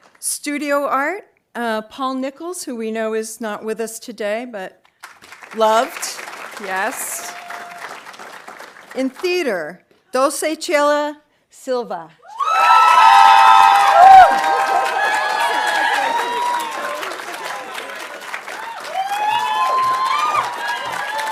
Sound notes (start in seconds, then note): 5.0 audience applauding; 12.3 audience cheering and applauding